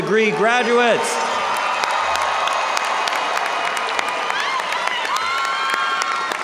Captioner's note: audience cheering and applauding